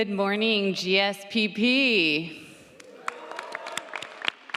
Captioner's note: audience applauds